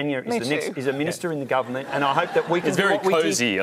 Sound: laughter

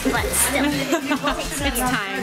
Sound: laughter

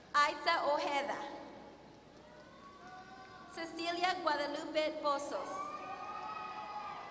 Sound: applause; applause; applause

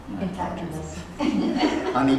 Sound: laughter

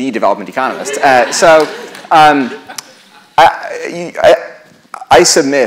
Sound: laughter

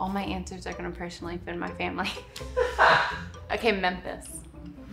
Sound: laughs

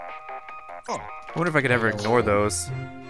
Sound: voiceover

